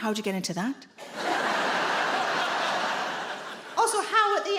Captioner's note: audience laughing